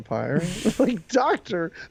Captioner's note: laughs